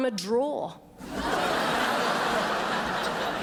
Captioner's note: crowd laughs